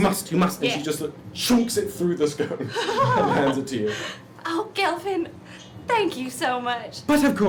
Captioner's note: laughs